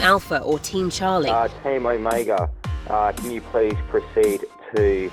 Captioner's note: voiceover